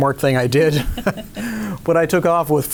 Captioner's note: laughing